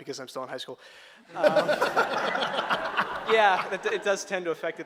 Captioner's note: audience laughter